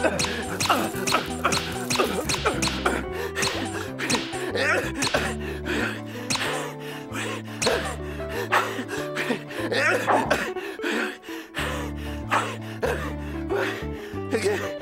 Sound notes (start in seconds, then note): 0.0 grunting, squeaking; 2.9 panting, squeaking; 7.7 panting